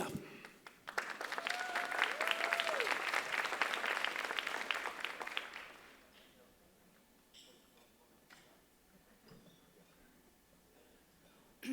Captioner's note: applause